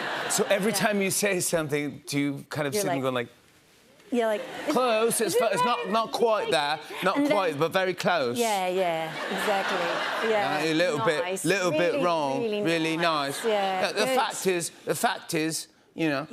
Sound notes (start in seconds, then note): 0.0 laughter; 4.4 British accent